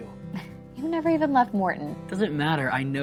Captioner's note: chuckles